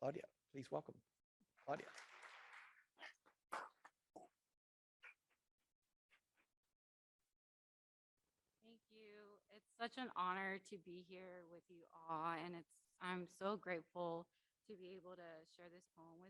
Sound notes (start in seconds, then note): 1.6 audience applauding